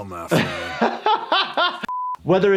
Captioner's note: laughing